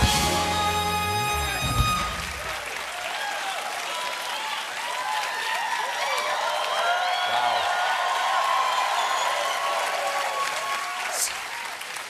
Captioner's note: cheers and applause